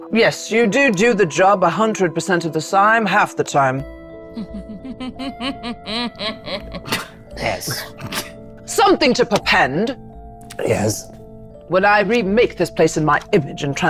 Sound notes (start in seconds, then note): 4.3 chuckling; 7.7 participant chuckling